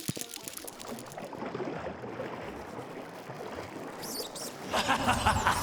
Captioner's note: water flows. a small rodent squeaks as it tries to climb the cliff